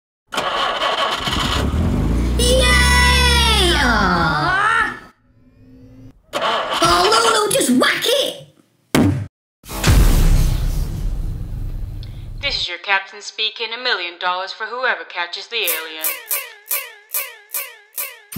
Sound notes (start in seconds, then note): 0.3 engine starts; 3.5 engine cuts out; 6.2 engine won't start; 9.7 loud THUD; 9.7 whoosh; 11.7 female voice over tannoy; 15.7 fast squeaks